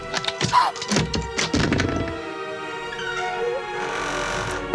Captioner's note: wood Cracking; A Door Creaking